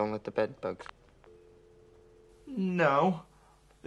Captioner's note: dial tone